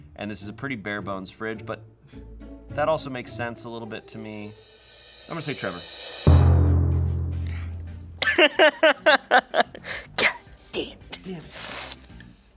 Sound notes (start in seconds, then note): 6.2 deflated music; 8.2 laughs